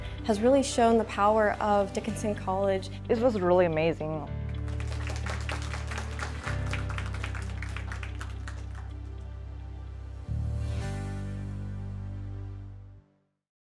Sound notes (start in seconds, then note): 4.4 group applauding; 7.2 gentle music